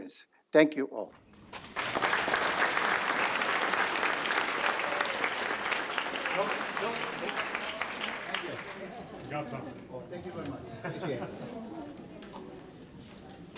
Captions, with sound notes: Thank you all. (audience applauds) - Forgot something. (chuckles) - Thank you very much, appreciate it.